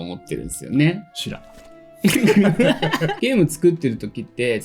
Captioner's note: laughs